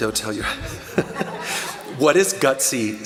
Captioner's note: laughter